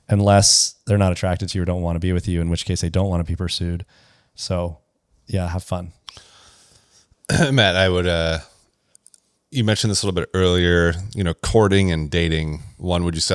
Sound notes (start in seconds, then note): 7.3 clears throat